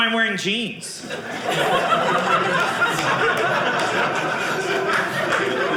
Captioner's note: audience laughing